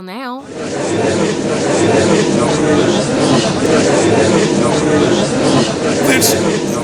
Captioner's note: gallery chattering